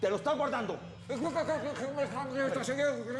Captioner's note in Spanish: trata de hablar sin éxito